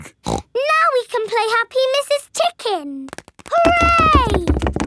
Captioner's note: snorts